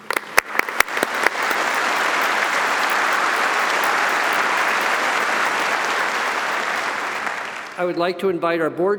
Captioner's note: audience applauding